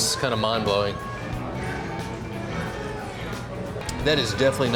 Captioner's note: people chatting; rock music